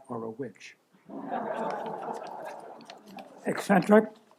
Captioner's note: laughter